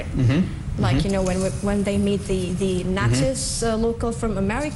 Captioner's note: non-english